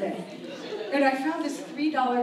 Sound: audience laughs

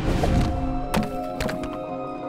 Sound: thudding

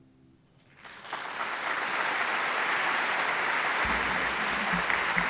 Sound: applause

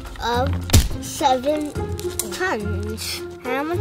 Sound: number splatting

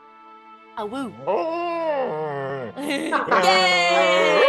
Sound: laugh

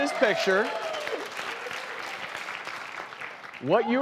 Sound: applause

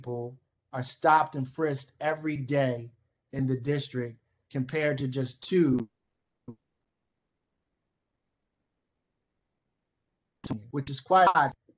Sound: silence

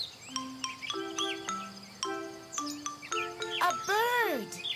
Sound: bird chirping; gentle music

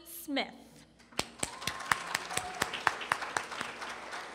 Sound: applause

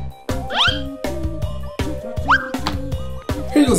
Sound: book whistles; book whistles

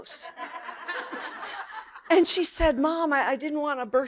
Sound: laughter

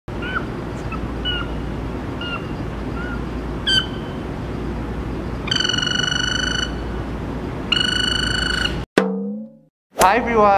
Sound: cute Telephone Chirps

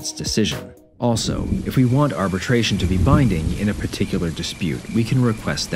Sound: rain, Crickets, Distant Thunder, No music

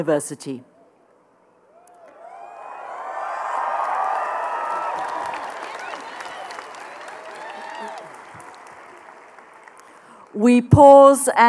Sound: applause

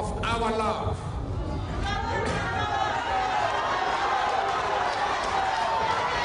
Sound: people cheering and applauding

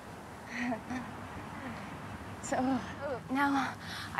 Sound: laughing

